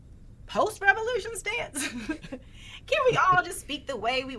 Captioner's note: both chuckling